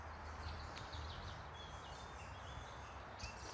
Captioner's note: birds chirping